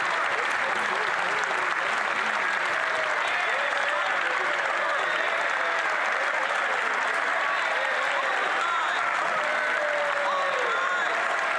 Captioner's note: some Applause